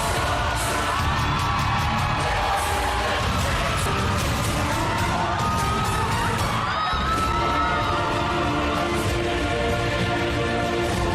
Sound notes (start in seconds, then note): 0.0 crowd cheering, applauding